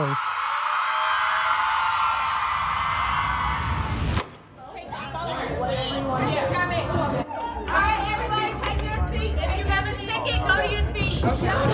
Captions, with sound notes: (crowd cheering loudly) (crowd chattering) - Alright, everybody take your seats! If you have a ticket, take your seat!